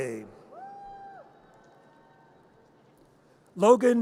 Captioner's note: audience cheers